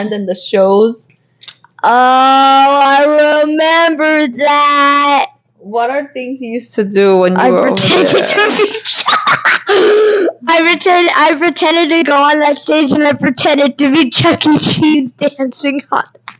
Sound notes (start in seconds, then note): 9.4 laughing